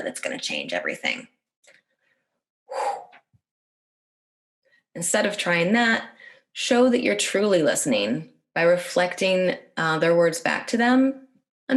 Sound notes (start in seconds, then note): 2.7 exhales